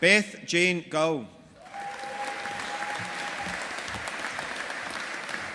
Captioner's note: audience applauding